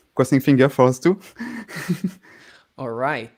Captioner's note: laughs